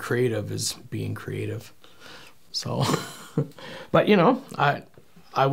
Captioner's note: laughing